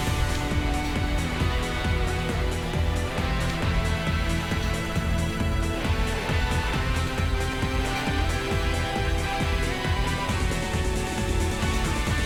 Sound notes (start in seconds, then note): none